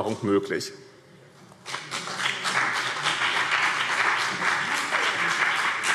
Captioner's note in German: Beifall BÜNDNIS 90/DIE GRÜNEN und CDU